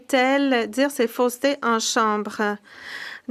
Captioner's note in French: voix de l'interprète